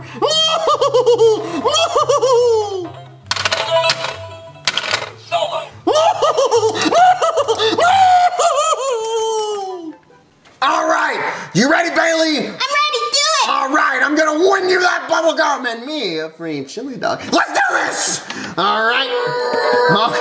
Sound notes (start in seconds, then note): 0.2 laughing; 2.7 clanking; 2.9 beeping; 5.8 hysterically laughing